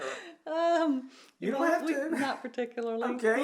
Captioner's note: giggles; laughs